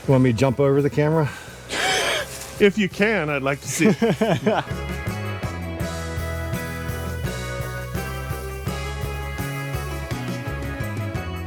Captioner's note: laughter